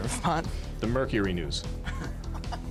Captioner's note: laughing